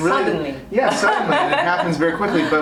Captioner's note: laughs